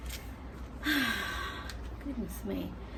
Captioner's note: laborious sigh